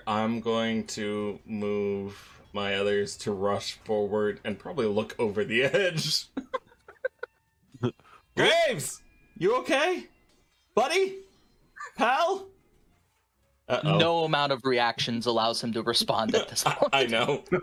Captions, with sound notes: I'm going to move my others to rush forward and probably look over the edge. [LAUGHTER] Graves, you okay? Buddy? Pal? No amount of reactions allows him to respond at this point. I know